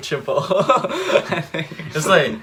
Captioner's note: laughs